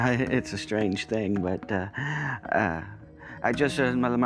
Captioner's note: chuckles